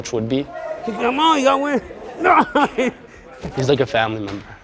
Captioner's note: groaning